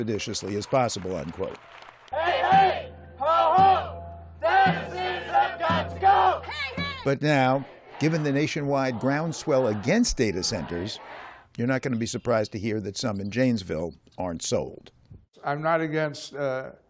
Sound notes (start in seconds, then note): 7.4 chanting